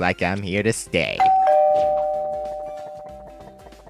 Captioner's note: Doorbell Deja vu